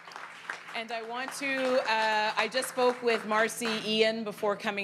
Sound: applause

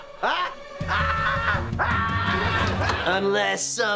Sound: screaming

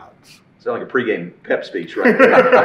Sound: all laughing

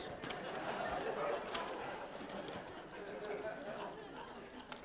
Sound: laughter

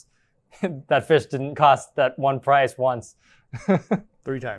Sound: chuckles

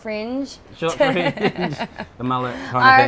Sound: laughs

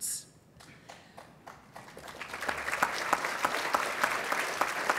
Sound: applause

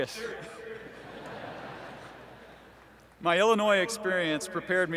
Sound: laughter

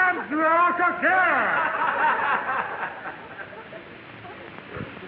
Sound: audience laughing

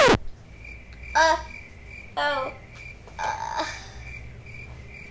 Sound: record scratches; crickets chirping

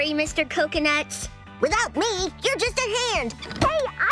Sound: in Mr. Coconut's voice

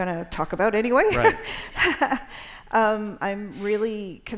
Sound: laughter

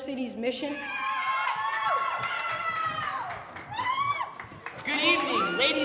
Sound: team yelling

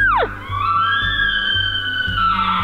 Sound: caller bugling

